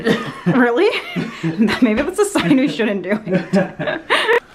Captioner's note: laughs